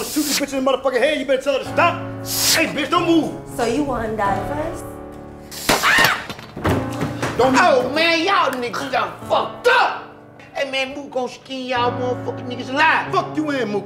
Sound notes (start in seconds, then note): 5.6 gun pops; 5.8 screams